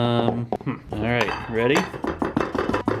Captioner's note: banging